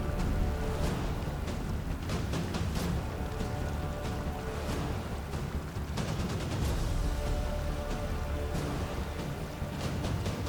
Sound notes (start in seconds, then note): 1.5 water trickling; 6.6 dramatic music continues